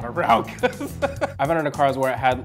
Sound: laughs

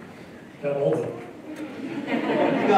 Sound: laughter

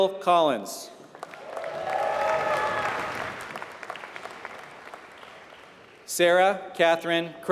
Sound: applause

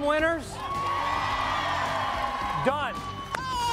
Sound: cheers & applause

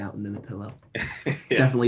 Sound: laughter

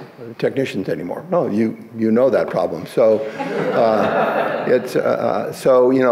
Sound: audience laughs

